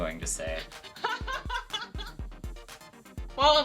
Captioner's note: intense laughter